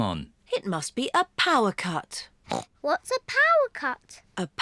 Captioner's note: grunts